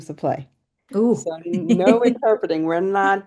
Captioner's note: laughs